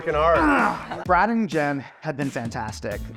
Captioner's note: grunts